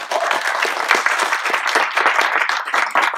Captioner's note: applause